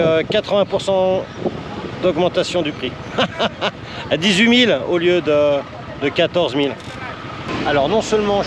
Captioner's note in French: rires